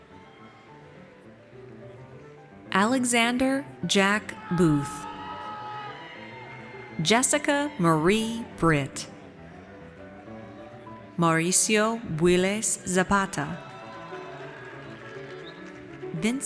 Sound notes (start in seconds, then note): 4.0 audience cheers; 12.8 audience cheers